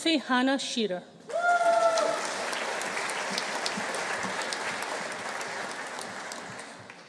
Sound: audience cheering; audience applauding

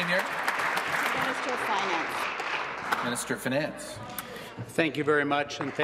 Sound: applause

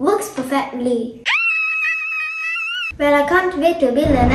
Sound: girl screaming

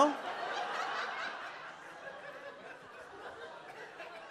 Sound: audience laughs

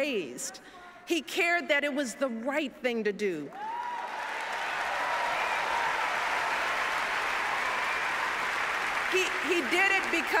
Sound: applause

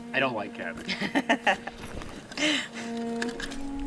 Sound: woman laughs

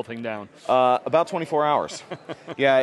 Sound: laughs

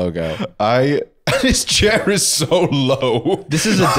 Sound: laughing

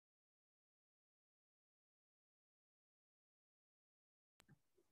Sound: silence

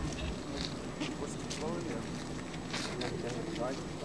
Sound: chatter

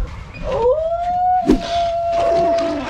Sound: howling

